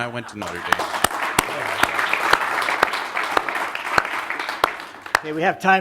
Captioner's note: applause